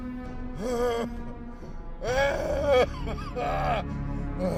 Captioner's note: groaning